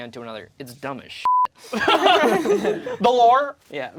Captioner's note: beep; group laughs